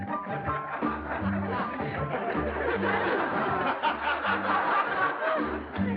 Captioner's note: laughter